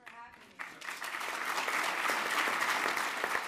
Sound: applause

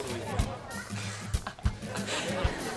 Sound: laughing

